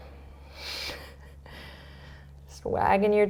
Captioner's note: laughing